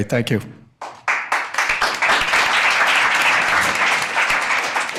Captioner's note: audience applauding